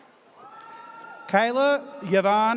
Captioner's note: audience cheers